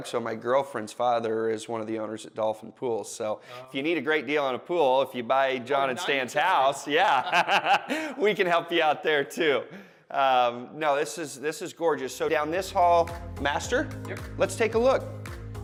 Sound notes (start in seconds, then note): 7.1 laughs